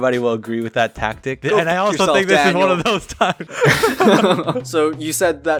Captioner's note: laughs